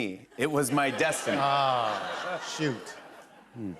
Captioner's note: laughter